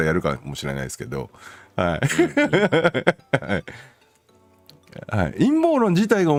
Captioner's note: laughs